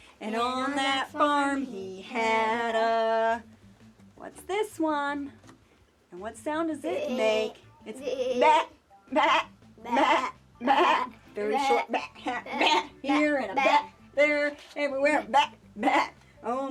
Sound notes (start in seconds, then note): 7.1 bleating